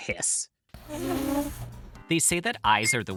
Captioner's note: cat hissing